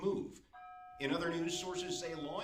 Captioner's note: doorbell rings